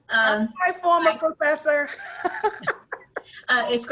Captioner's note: laughs